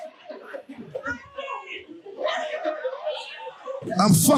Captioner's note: audience laughing